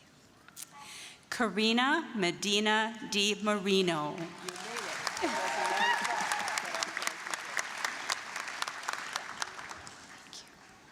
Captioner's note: applause, cheering